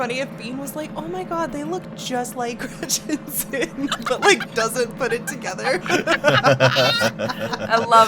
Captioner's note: laugh